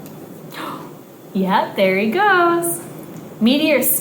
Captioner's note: gasps